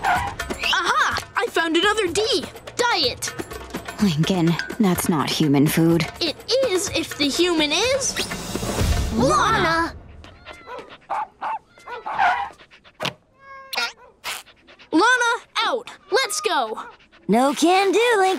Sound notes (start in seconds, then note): 11.8 barking